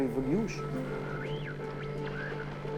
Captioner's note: radio tuning